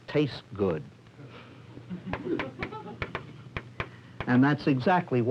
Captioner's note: crowd laughter, chalk tapping